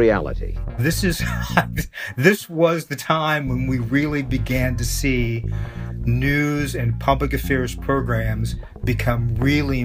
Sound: laughs

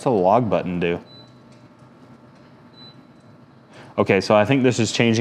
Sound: firebox beeping

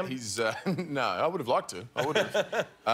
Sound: laughter

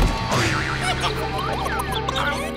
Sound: clucking

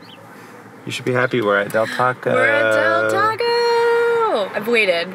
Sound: gasps

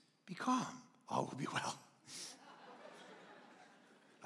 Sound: congregation laughing

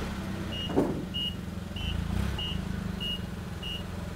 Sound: beeping

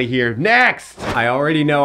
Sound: air whooshing

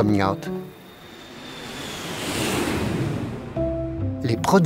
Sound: airplane engine roaring

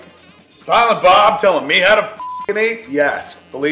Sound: beep

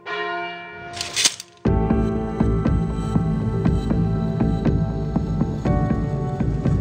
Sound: bell tolls; sword unsheathes; sword clinks; dramatic music

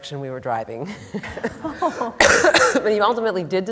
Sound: laughter

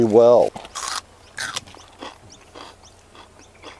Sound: crunching

